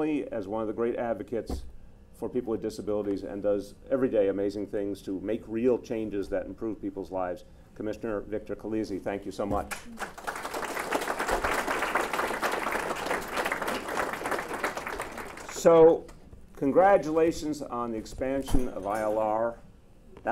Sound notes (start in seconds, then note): 9.7 applause